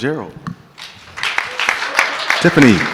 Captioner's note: audience clapping